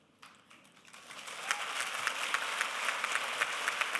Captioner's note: applause